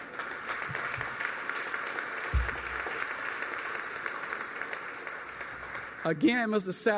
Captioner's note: applause